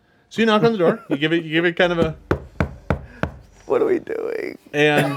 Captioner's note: knocking